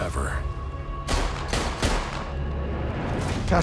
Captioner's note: gunfire